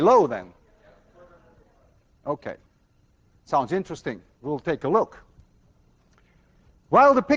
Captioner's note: class murmurs